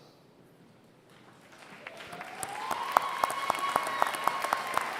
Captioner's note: applause